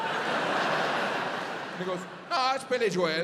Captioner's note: audience laughs